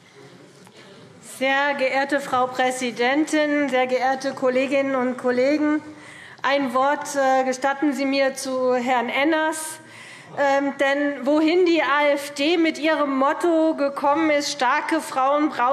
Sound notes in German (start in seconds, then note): none